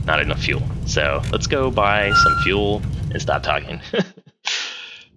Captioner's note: laughs